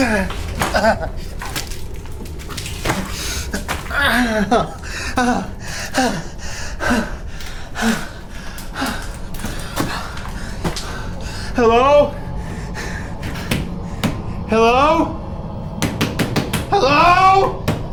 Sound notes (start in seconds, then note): 0.0 Miles groans; 5.1 Miles groans and pants; 13.8 pants; 16.0 hand slams